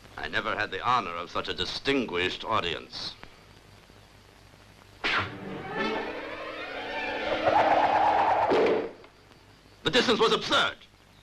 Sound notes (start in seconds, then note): 5.0 arrow whistling; 5.2 suspenseful orchestral music